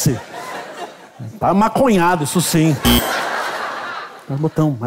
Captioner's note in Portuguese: campainha